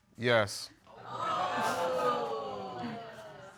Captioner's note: audience exclaiming